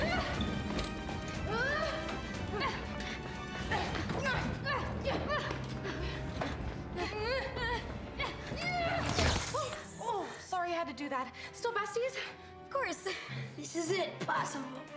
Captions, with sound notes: ( grunting ) ( electricity crackling ) Oh, sorry I had to do that. - Still besties? - Of course. This is it, Possible.